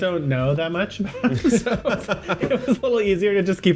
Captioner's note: both laugh